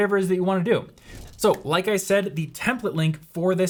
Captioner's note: electronic crackle